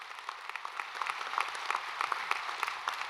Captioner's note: applause